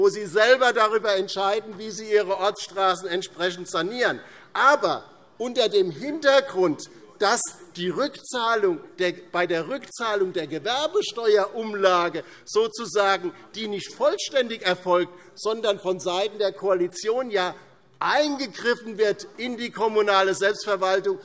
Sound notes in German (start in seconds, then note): none